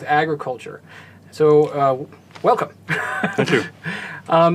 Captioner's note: laugh